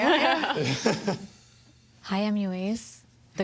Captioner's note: laughter